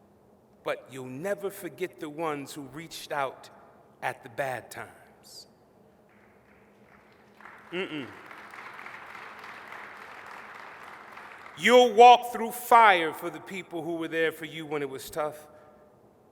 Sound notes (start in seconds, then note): 6.0 applause